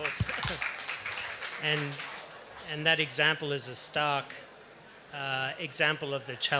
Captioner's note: applause